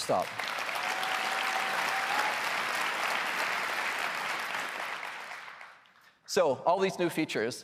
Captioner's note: applause